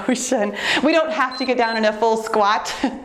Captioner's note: timer beeps